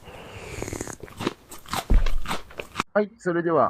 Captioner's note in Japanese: 鼻息